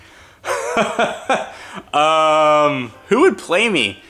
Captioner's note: laughs